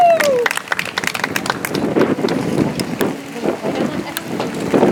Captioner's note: audience applauds